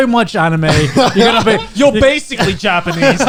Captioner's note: guys laughing